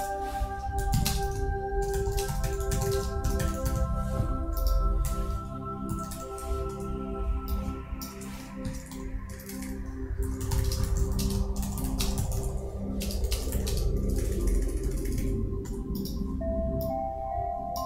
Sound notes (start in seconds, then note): 1.2 keys clacking; 5.8 mouse clicking; 12.7 beautiful, soothing chime and bell music